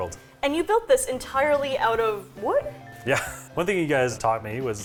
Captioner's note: chuckles